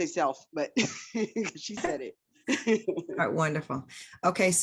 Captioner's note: laughs